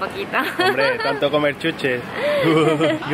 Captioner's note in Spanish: risas